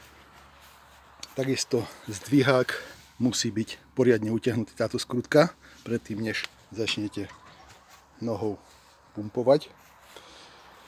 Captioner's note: pedaling